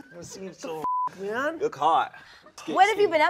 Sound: beeping

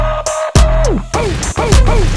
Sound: record Stops

